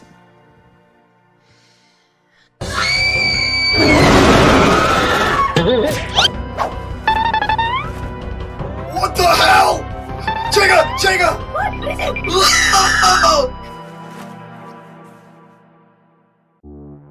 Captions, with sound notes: *shriek* *shriek and demoniacal shriek* What in Elizabeth's name, pray tell? Chica, I do say! CHICA, I DO SAY!! Hark?! Pray do tell, whatever is the matter with you?! 𝐵𝑒𝒽𝑜𝓁𝒹!